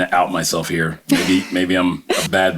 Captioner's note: laughs